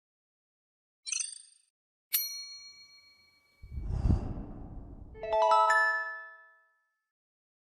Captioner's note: intro sound effects